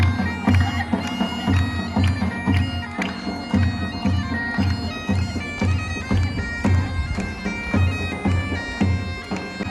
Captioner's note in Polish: Aplauz